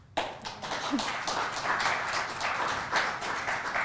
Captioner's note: audience clapping